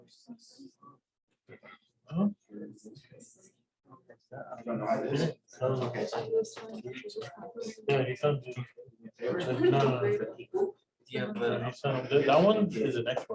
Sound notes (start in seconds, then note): 8.4 background chatter